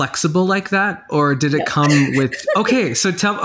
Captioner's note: giggling